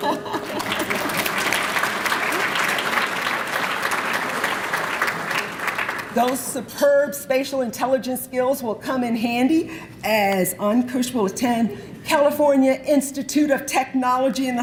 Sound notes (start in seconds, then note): 0.0 laughter and applause